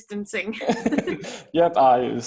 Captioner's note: chuckling